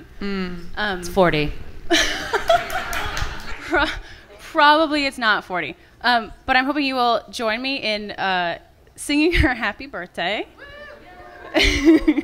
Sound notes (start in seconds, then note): 1.9 laughter